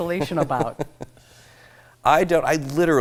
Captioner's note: laughs